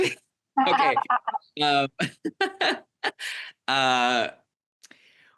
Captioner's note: everyone laughs